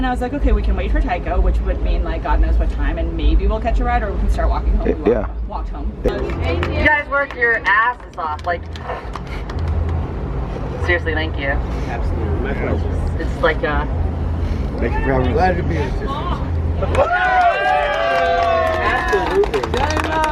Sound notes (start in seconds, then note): 14.8 people chattering; 16.8 cheers, applause